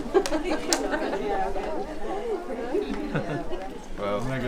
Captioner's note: laughing